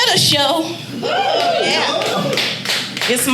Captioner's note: audience cheering